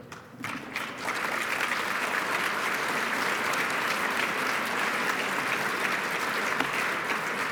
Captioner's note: applause